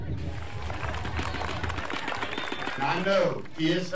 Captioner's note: applause